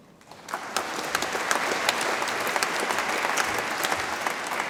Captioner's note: audience applauds